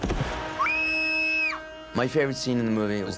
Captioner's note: screaming